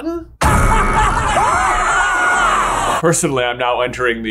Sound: characters screaming; laughing

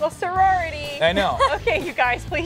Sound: laughs

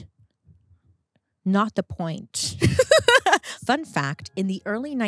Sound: laughs

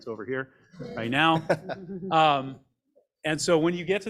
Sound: group laughs

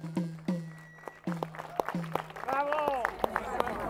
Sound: applause

